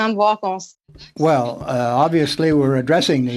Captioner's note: speaking French